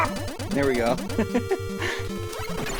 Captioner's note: laughs